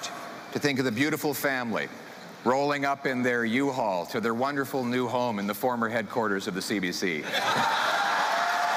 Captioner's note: chanting